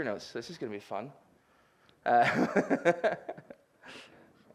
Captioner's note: chuckles